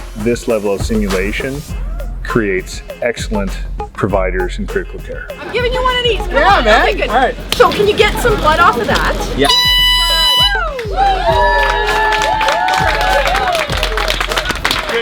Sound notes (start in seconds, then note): 9.3 finishing horn blares; 10.2 cheers and applause